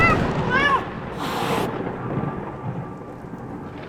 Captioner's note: angry terrified meow